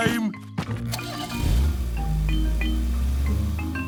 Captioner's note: engine starting